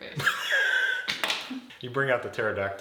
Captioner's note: laughing